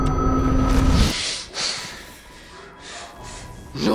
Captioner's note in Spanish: Panting